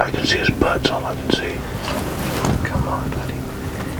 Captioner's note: whispering